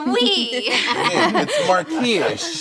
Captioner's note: laughing